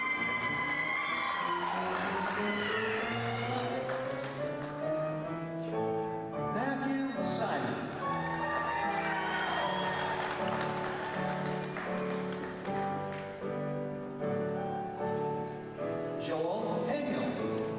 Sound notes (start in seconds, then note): 7.9 applause